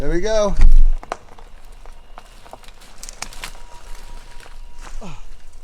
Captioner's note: twigs crackling